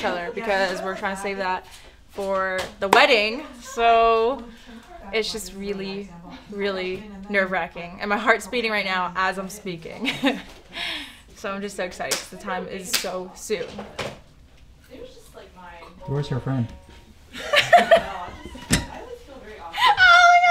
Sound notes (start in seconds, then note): 9.9 giggles; 17.3 and friend laughing